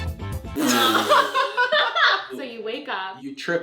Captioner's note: laughs